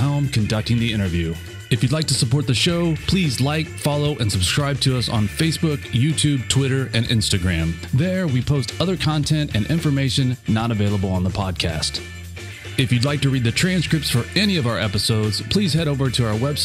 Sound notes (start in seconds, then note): none